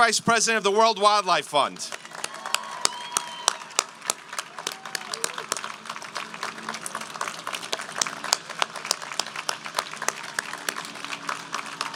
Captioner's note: applause